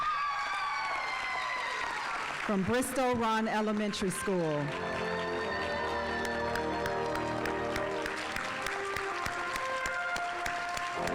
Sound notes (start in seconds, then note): 0.1 audience applauding; 5.3 audience applauding; 7.5 instrumental music